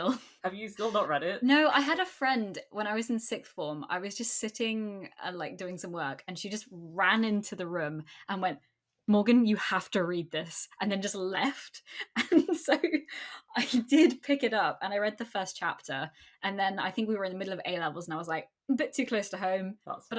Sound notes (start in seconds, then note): 11.9 laughing